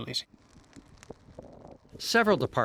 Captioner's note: fire crackling